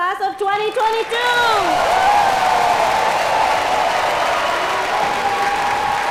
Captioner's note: cheers and applause